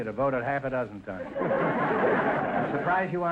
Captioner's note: audience laughter